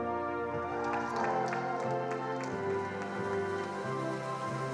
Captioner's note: attendees applauding